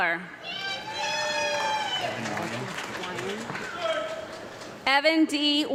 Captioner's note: audience clapping and woman yelling